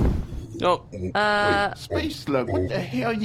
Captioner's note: door opens